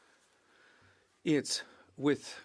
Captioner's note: speaking French